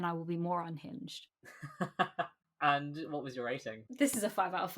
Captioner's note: laughs